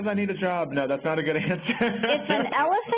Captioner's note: laughs